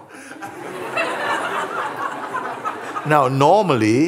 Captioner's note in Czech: smích